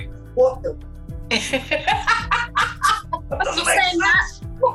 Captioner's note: laughing